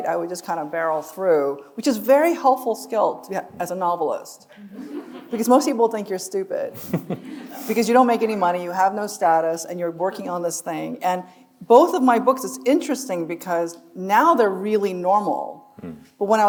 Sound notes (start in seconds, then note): 6.7 group chuckling